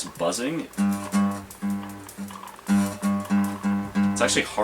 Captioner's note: pathetic 10 gauge buzz